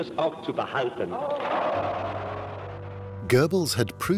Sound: cheering

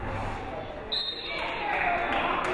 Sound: whistle blows; crowd applauding

